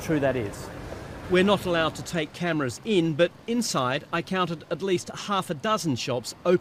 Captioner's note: voice-over